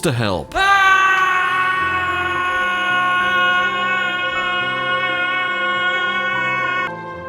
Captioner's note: screams